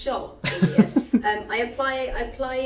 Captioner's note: laughing